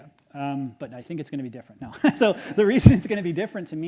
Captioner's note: chuckles